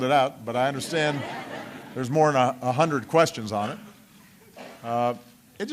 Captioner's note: laughter